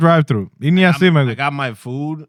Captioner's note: speaking In Foreign Language